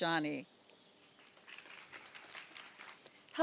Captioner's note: applause